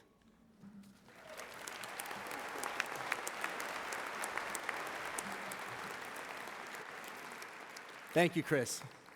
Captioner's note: applause